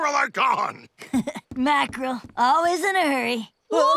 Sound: chuckling

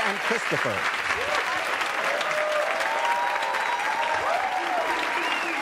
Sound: audience cheering and applauding

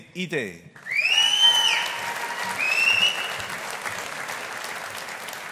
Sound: audience applauding

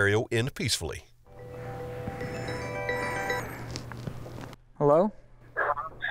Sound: phone ringing

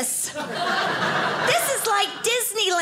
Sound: audience laughing

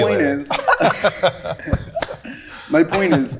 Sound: group laughing

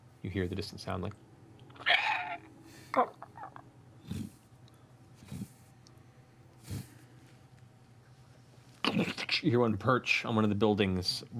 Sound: screeching, flapping, crunch

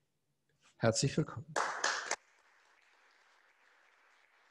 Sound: applause

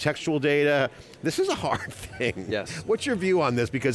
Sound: chuckles

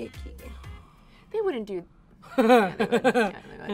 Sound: laughs

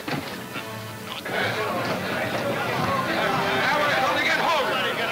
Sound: men yelling simultaneously

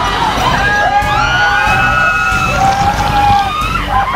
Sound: screaming

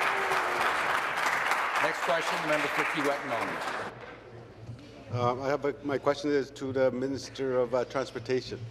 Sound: applause

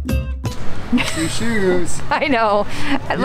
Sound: laughs

